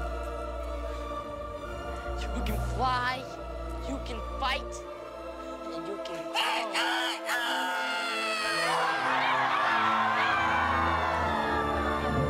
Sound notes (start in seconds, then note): 6.6 crowing